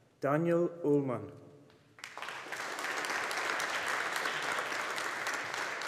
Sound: audience applauding

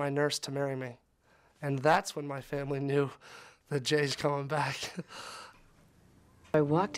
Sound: laughs

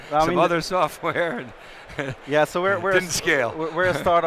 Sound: laughs

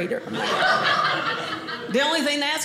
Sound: audience laughing

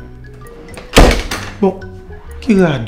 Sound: door closes

